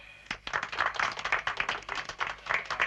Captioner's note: applause